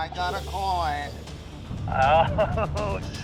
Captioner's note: laughing